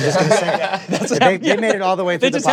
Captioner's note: laughter